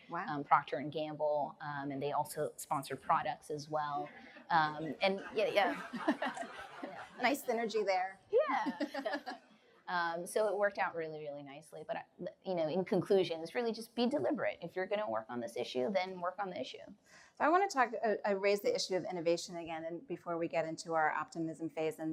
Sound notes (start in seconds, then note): 4.8 laughter; 8.6 laughs